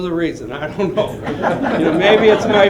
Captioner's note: laughter